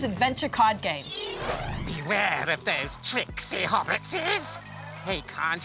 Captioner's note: imitates gollum